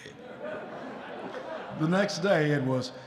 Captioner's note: audience chuckling